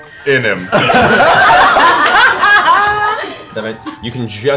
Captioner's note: laughter